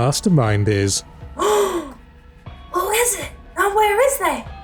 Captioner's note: gasp